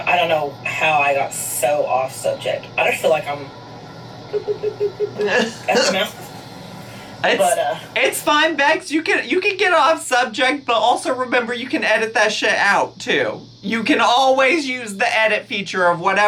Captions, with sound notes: I don't know how I got so off-subject, I just feel like I'm- (mimics talking) Out of my mouth. But... - It's fine, Becks, you can get off-subject, but also remember you can edit that shit out, too. You can always use the edit feature